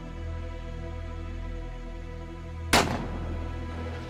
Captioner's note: gunshot